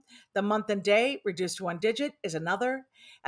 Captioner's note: none